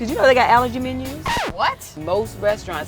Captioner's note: record scratches